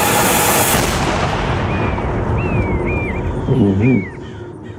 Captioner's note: gun shot